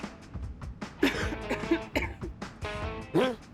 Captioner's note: coughs politely